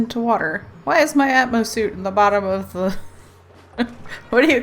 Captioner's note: laughs